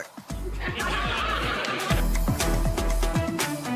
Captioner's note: audience laughing; upbeat music